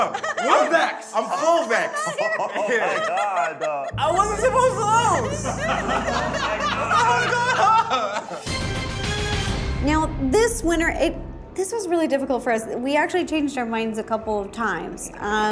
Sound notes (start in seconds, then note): 5.6 group laughs; 8.5 dramatic music